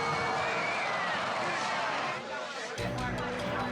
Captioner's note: screen whooshes; suspenseful music